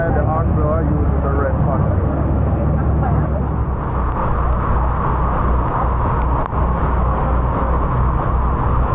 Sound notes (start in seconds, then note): 3.5 wind blowing